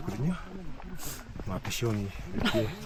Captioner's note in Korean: 훌쩍